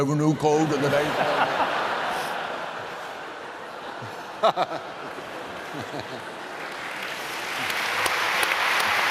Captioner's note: laughter; applause